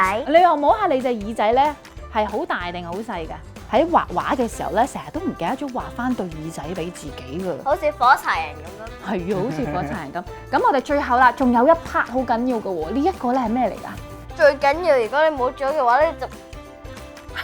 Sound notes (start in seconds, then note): 8.7 laughing